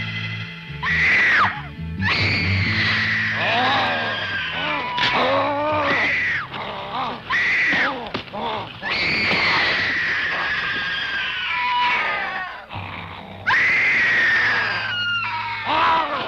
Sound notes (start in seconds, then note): 2.0 screams; 3.4 creature growls; 8.8 screams; 12.6 creature snarling